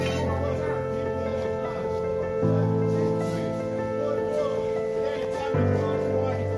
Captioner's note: background chatter; mid tempo piano music